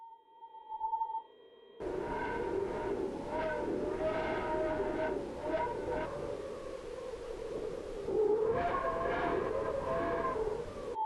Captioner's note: eerie wind noise